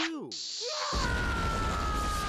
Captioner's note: yelling